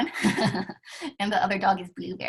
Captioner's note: laughter